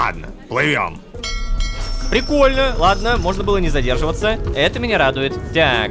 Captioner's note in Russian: Звук корабельного колокола